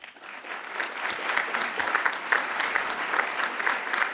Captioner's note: all clapping